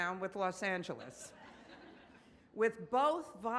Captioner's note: audience laughs